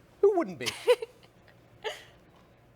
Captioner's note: laughs